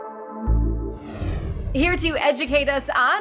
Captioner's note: serene synth music; whooshing